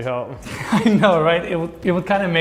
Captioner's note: laughing